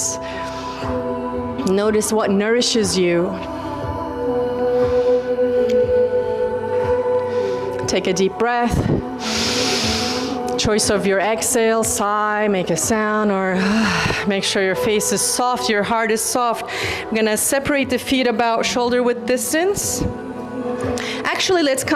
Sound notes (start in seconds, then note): 13.6 sighs